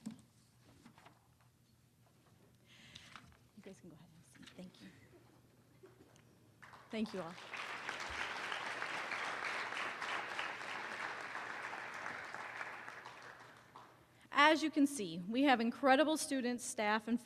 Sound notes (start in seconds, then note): 8.8 applause